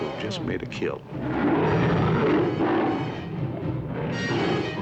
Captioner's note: roaring